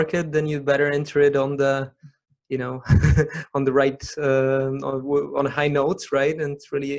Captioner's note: laughs